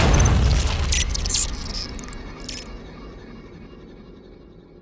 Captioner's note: rocket exploding; static crackling